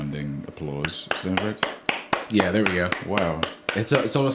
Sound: applause

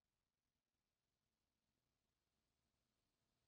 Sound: none

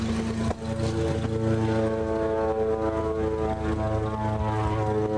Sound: distant airplane

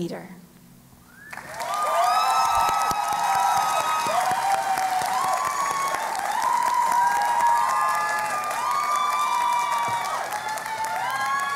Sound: cheering and Applause

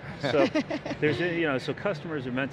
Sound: laugh

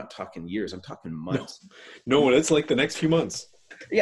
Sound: laughs

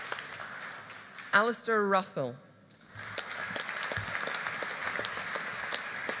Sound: audience applauding

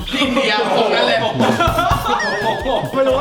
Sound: laughing

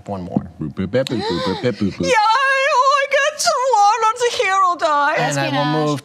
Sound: shouts incoherently

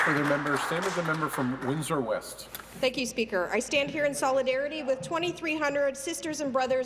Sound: some Applause

